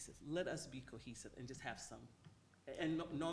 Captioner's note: none